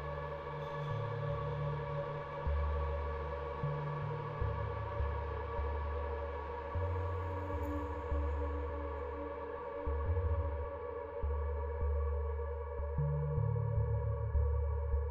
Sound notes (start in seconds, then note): none